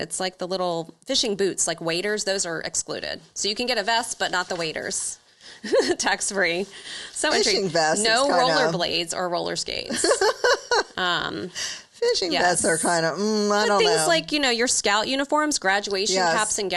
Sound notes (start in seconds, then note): 5.6 chuckles; 9.8 laughs